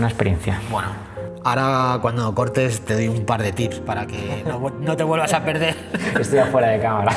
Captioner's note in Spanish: risas